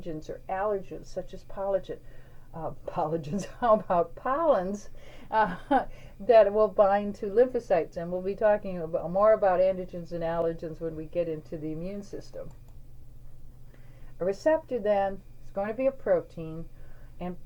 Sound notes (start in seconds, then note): 5.4 chuckles